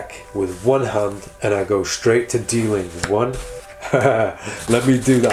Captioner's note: laughs